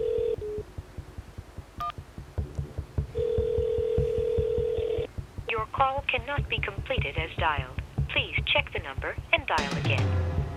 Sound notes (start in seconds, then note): 3.1 line ringing